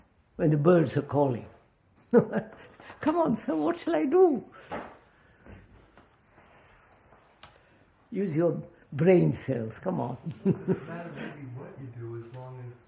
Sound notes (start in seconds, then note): 2.1 laughs